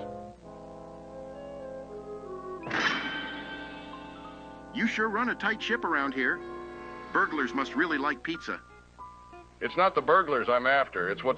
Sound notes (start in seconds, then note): 2.6 door slams